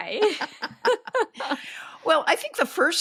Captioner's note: everyone laughing